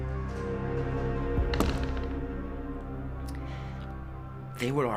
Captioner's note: door slamming